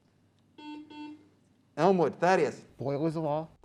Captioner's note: beep